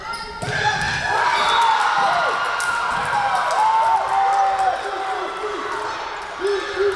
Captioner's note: Tigers cheering; crowd cheering